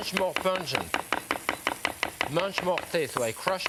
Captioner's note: knife tapping